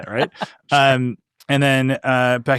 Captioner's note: laughing